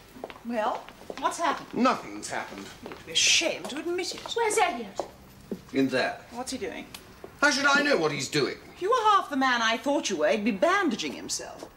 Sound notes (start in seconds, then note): none